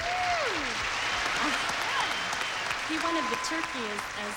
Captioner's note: audience applauding